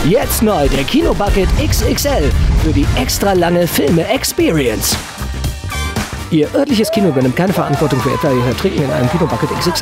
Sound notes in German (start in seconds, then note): 5.0 Dynamische Musik; 7.5 Schreie